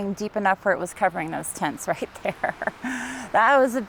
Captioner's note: laughing